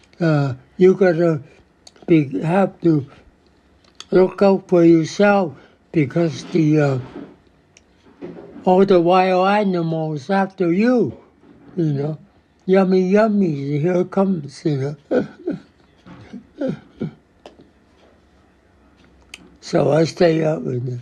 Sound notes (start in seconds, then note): 17.7 <laughs>